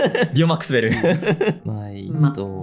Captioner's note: laughs